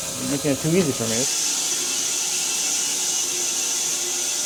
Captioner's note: saw buzzes